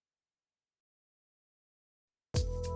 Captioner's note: silence